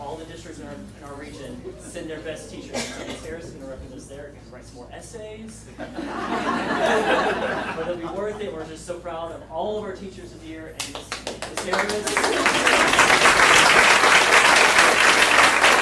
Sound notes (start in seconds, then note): 5.8 audience laughing; 11.0 audience applauding